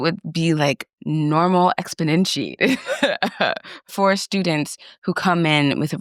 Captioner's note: laughs